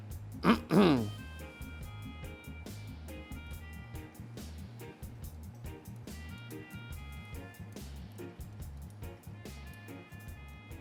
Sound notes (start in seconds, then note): 0.4 clears throat